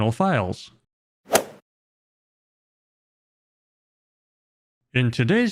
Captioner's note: golf swing sound effect